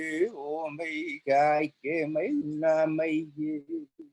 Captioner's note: chanting